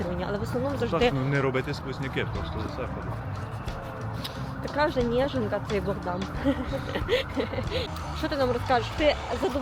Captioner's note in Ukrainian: сміх